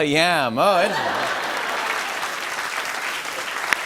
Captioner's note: laughter and applause